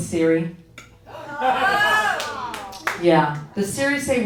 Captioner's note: audience whooping